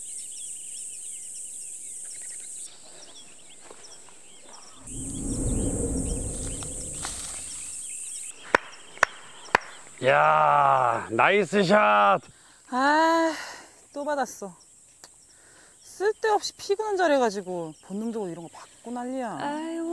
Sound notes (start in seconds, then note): 4.9 flap; 9.5 clap clap clap